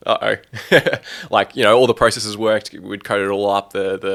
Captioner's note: laughs